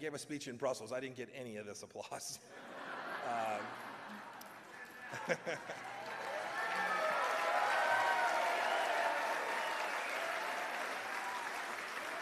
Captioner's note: laughter; cheers and applause